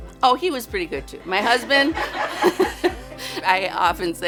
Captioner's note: laughs